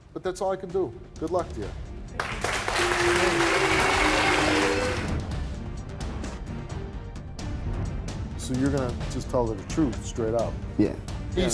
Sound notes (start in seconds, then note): 2.1 audience clapping; 5.2 intense music